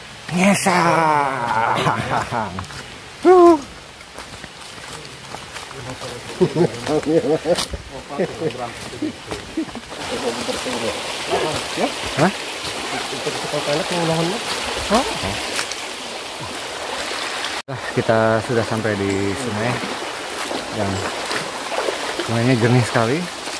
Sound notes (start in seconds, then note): 6.3 laughs